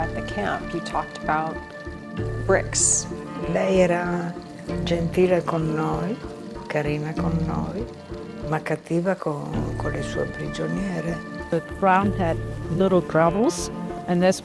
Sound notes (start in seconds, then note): 3.1 speaking in foreign language